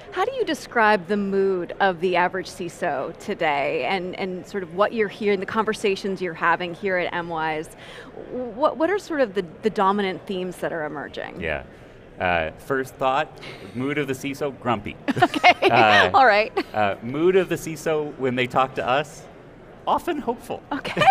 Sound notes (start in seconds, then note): 15.1 chuckles